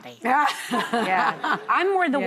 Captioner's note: laughing